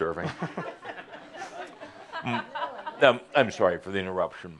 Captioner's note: some chuckles